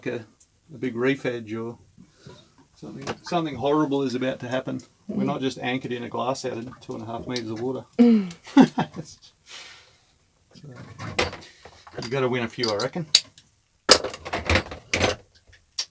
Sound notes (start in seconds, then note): 8.2 chuckling